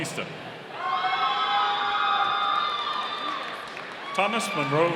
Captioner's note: audience cheering